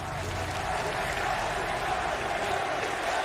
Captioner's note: crowd cheering